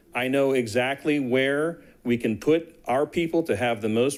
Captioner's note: none